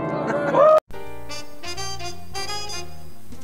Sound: cheering

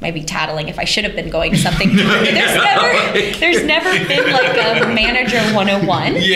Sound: laughter

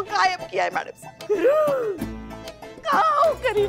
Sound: gasping

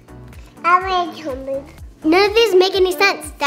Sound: baby talking

